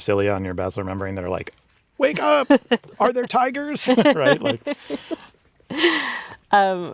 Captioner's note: laughs